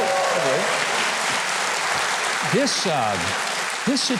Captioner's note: audience applauding